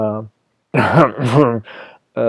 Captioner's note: ahem ahem